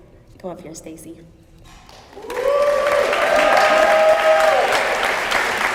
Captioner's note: applause